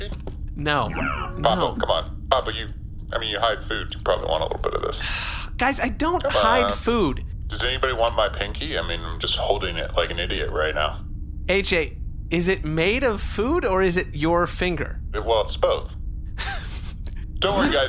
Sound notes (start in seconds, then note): 4.9 sighs